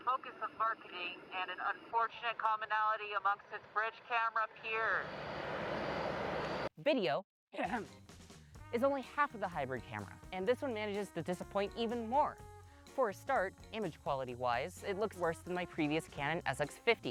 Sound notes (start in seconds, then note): 7.6 ahem